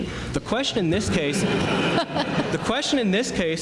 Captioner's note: laughter